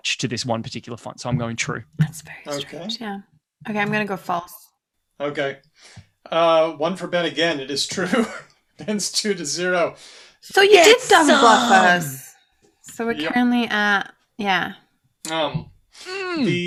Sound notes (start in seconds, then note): 2.6 whispering; 7.9 laughs